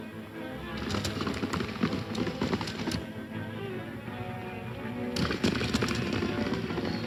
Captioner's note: galloping hooves; energetic orchestral music